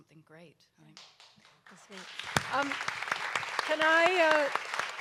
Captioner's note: audience applauds